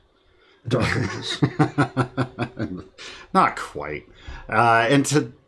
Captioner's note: laughing